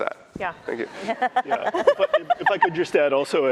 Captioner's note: laughter